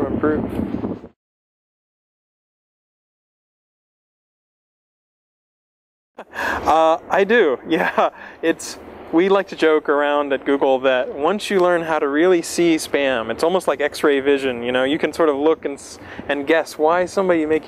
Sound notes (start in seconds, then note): 1.1 pause; 6.2 laughs